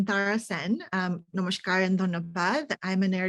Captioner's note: speaking foreign language